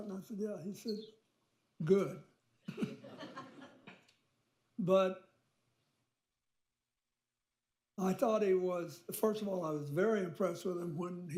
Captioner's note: laughter